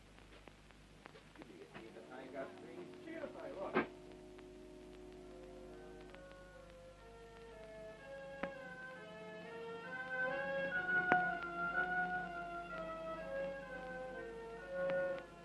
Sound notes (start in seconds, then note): 1.3 pub chatter